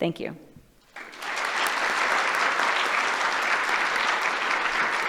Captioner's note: applause